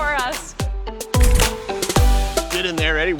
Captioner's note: camera clicks